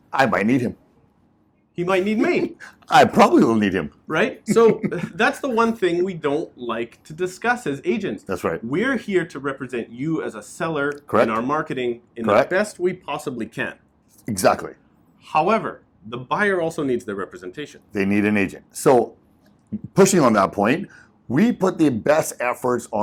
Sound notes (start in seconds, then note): 4.2 laughs